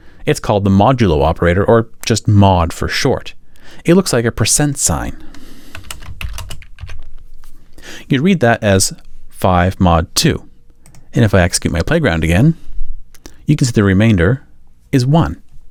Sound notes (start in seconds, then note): 5.7 keyboard clacking